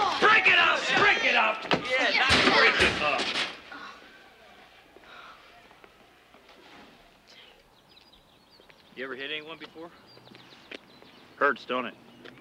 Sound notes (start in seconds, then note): 5.3 birds chirping